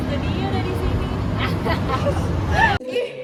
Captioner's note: unexpected villain laugh